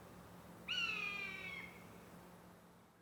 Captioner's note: bird caws